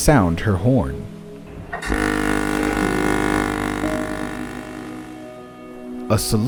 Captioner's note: RMS Queen Mary's horn blasts into the distance